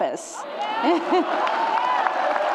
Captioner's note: laughs; audience claps and cheers